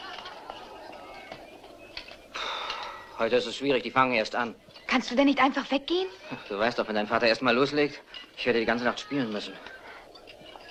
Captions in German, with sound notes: [seufzt] Das bringt nichts. Sie machen es sich bequem. Kannst du nicht weggehen? [lacht] Du weißt doch, wie dein Vater ist. Ich werde die ganze Nacht pfeifen.